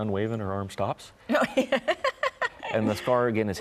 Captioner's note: laughs